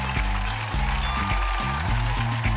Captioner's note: cheers and applause